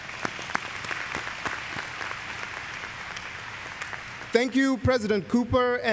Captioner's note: applause